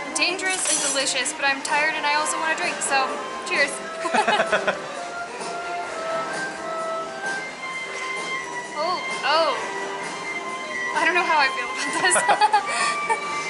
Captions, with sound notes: dangerous and delicious, but I'm tired and I also want to drink, so cheers! (Chuckles) Ooo, Ohh!! I don't know how I feel about this (Laughs).